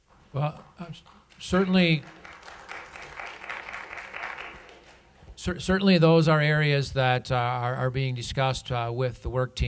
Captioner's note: applause